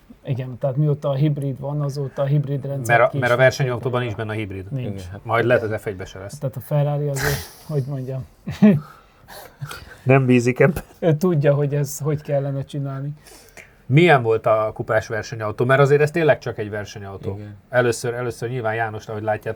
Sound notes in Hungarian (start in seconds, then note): 8.4 nevetés; 9.8 horkantás